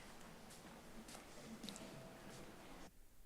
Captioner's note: footsteps